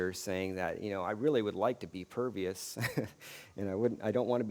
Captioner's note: laughs